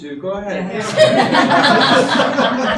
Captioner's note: audience laughing